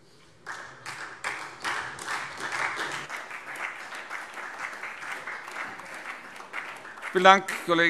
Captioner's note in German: Beifall SPD